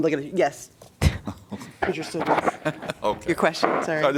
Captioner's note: laughter